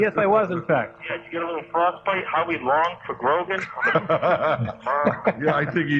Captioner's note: laughter